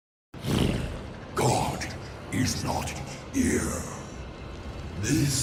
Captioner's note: snarl